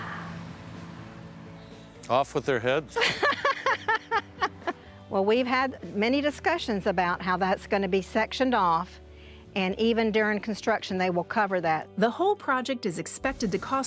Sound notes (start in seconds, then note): 2.9 laugh